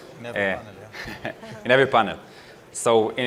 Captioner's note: laugh